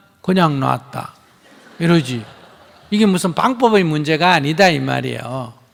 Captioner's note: laughter